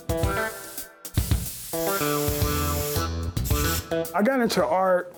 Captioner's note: spray can hissing